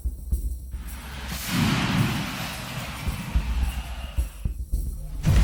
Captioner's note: car crashing